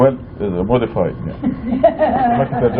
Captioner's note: laughter